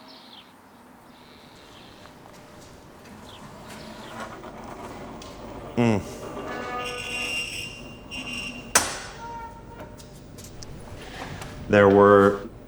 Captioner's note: footsteps in gravel